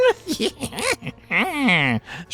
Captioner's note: Kelondra cackles AGAIN